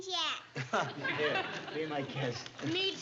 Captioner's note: laughs